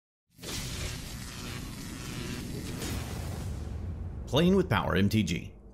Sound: electricity crackling

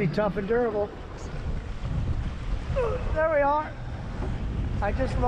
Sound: groaning

